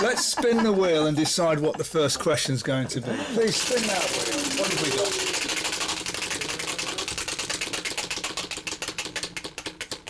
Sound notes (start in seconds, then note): 6.0 wheel spinning